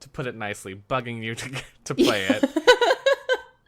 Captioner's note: laughs